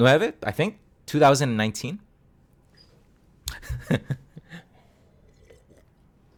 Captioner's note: laughs in embarrassment